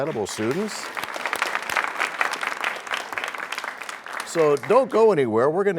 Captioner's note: applause